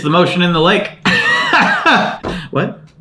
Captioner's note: laughs